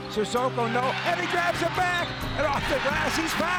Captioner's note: crowd cheering